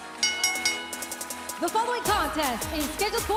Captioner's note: bell ringing